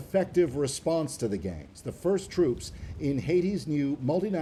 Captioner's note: speaking French